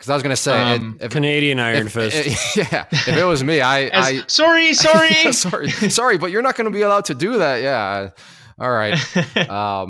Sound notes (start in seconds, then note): 4.7 laughs